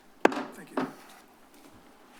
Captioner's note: bangs